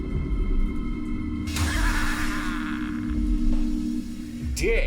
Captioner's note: laughs